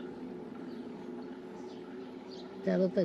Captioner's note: birds chirping